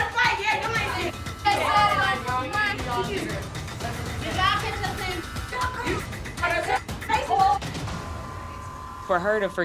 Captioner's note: indistinct chatter